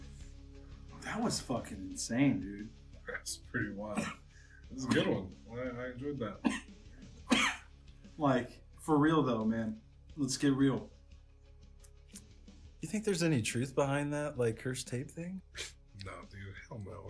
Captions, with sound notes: - That was fucking insane, dude. - That's pretty wild. That's a good one, I enjoyed that. (coughing) - Like, for real though, man. Let's get real. You think there's any truth behind that, like cursed tape thing?